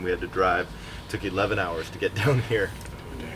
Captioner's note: laughs